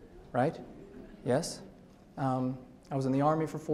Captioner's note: audience laughs